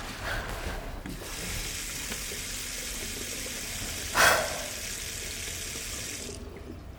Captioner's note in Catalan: Sona l'aigua de l'aixeta i la Lisa suspira amb força